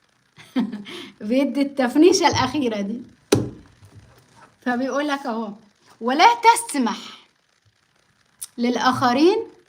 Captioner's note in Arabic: ضحك